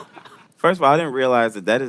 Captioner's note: chuckles